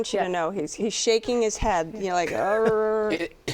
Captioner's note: groans